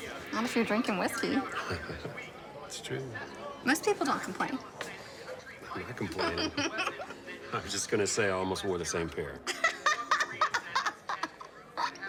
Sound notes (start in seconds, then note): 1.6 Aaron laughs; 6.2 blonde woman laughs; 9.5 blonde woman laughing